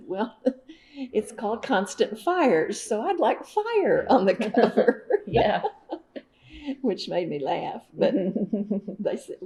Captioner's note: laughter